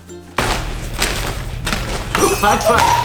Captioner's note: gentle music; bags rustling; both laughing; glass breaking